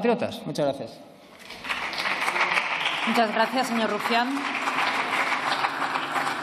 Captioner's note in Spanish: Aplausos